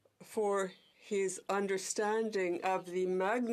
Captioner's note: speaking in french